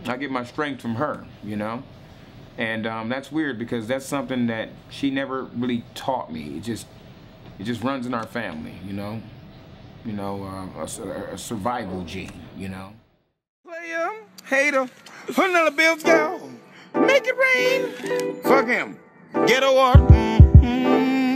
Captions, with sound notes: I get my strength from her, you know? And that's weird because that's something that she never really taught me. It just, it just runs in our family. You know, a survival gene, you know. Player hater! - "$100 bills yo!" (high-pitched voice) "Make it rain!" Fuck him. Ghetto art, mm hmm.